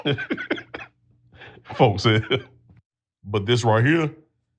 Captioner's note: laugh